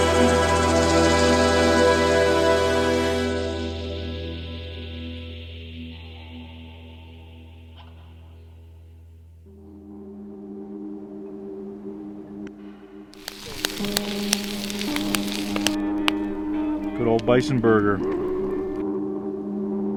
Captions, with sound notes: (flames crackling) Good old bison burger.